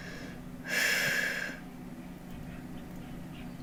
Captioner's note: woman exhales